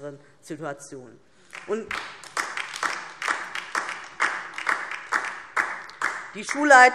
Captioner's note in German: Beifall DIE LINKE